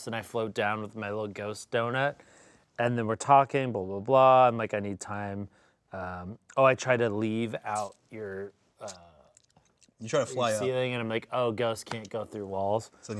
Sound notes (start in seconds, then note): none